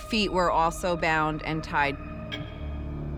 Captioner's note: clock ticks